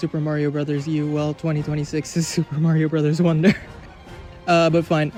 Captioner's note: laughs